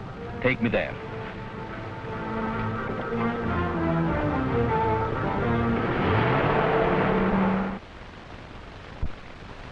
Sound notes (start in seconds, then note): 5.9 engine revving